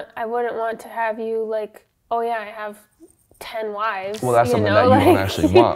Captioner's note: laughs